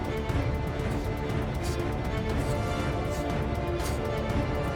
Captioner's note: Dean panting